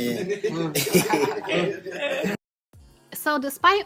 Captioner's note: laughing